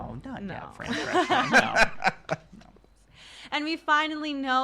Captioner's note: laughter